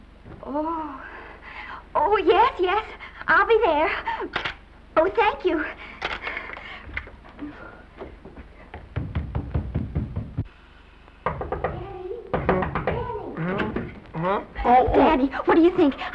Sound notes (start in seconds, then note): 7.3 sighs